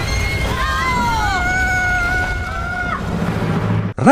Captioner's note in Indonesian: berteriak